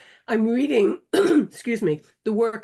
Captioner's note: coughing